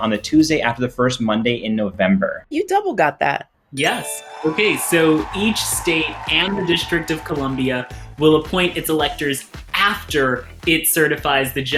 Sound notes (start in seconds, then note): 3.8 chime rings; 3.8 crowd cheers